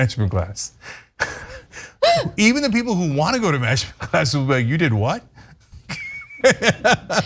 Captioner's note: laugh